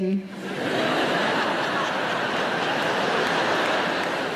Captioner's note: audience laughing